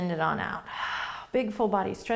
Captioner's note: exhaling